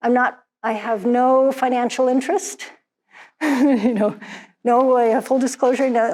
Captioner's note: laughs